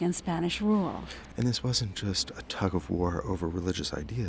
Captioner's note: voiceover